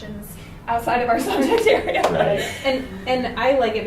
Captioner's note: laughs